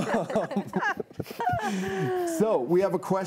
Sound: all laughing

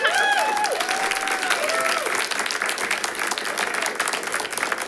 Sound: audience applauds

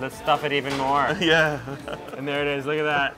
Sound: chuckling

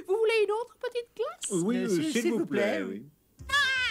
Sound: none

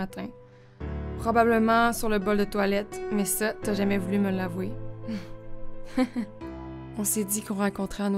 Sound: haha

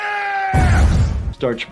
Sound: pharaoh explodes

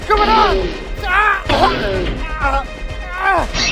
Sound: struggling

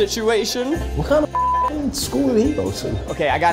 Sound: beep

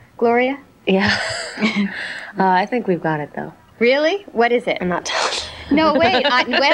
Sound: laughing

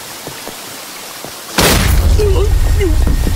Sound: gunshot

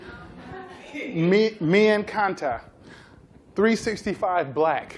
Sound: spanish

